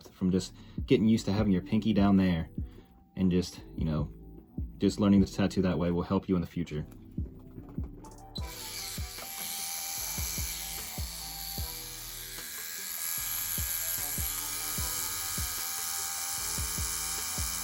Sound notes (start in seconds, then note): 8.4 tattoo machine buzzing; 13.3 light music